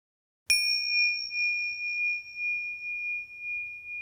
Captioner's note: bell rings